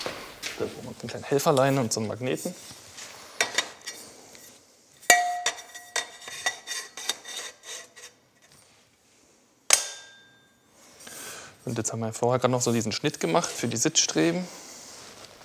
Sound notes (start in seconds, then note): 5.0 metal clink; 9.7 snapping clink